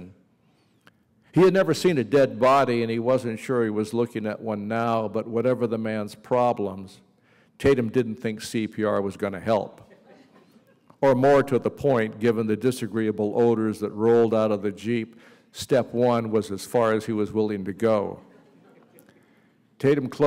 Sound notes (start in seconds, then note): 9.8 laughter